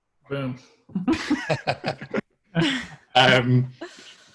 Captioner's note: all laughing